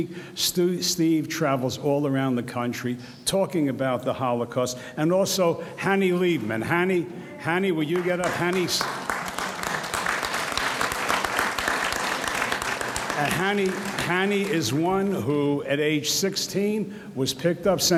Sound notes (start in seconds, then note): 7.9 audience applauds